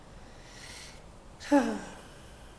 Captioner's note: contented sigh